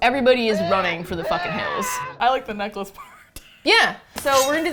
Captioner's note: Wilhelm scream; laughs